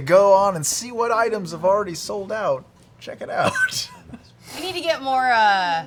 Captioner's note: laughs